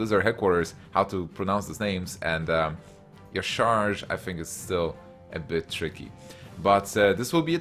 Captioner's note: sigh